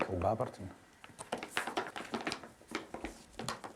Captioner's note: paper rustles